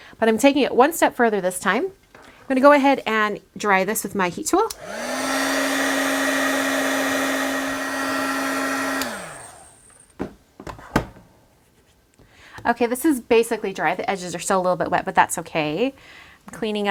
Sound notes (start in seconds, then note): 4.8 drying sounds